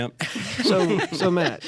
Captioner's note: laughter